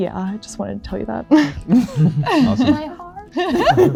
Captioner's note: all giggling